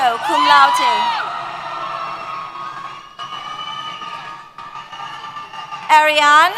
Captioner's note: cheers